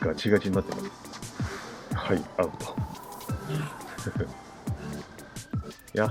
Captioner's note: laughs